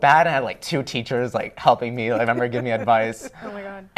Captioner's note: laughter